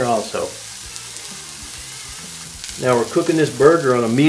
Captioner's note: sizzling